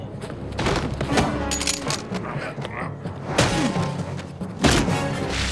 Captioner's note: grunting